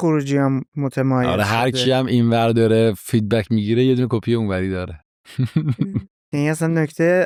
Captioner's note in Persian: خنده